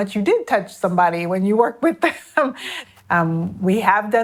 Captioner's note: chuckles